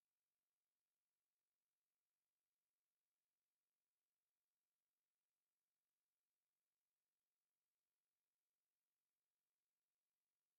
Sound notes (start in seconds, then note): none